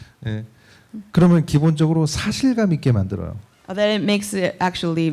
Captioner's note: speaking korean